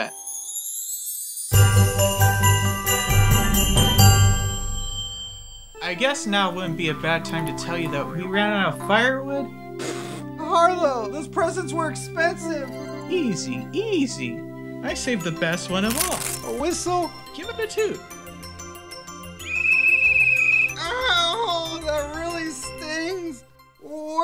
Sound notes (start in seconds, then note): 9.8 Hubert spitting out a drink; 19.4 blows a sharp whistle sound